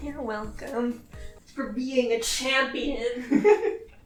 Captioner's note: laughs